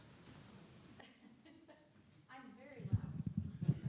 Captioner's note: laughing